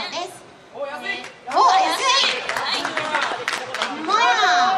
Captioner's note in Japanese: 拍手